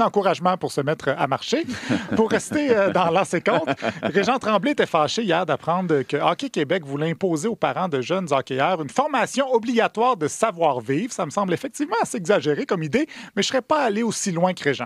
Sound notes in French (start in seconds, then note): 1.6 rires